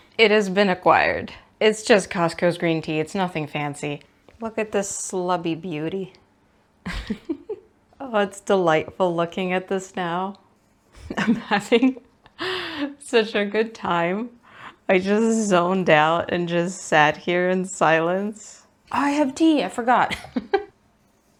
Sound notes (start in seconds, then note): 6.8 giggles; 11.0 giggles with delight; 20.1 laughs